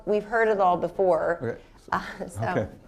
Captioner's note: chuckles